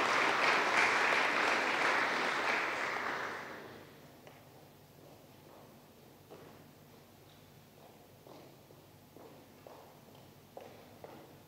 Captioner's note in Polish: oklaski